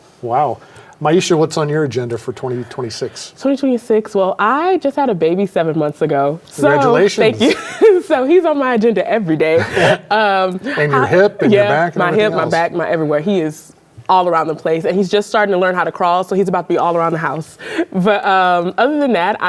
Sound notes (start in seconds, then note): 7.3 chuckles; 9.6 all chuckle